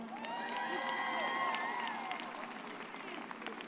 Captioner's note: audience cheers